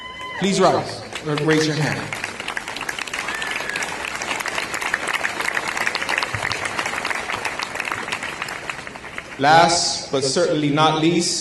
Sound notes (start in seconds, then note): 2.5 applause